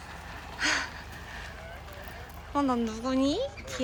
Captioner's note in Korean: 안도의 한숨